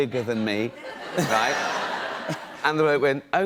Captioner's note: laughter